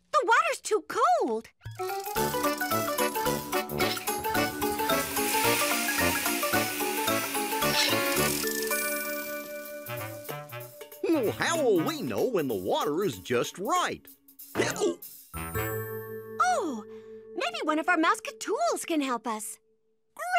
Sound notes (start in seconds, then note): 14.6 hiccups